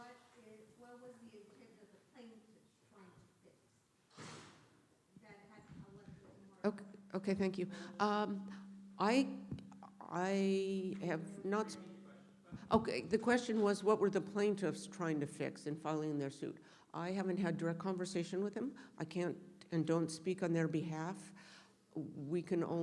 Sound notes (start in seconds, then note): 4.1 door slams